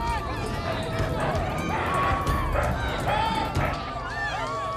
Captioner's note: screaming and yelling